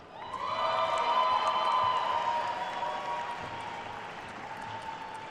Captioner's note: attendees cheering and applauding